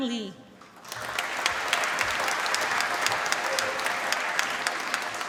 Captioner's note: applause